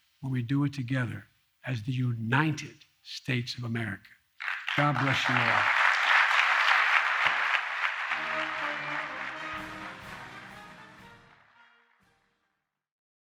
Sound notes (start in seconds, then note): 9.2 applause